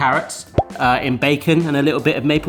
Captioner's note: screen popping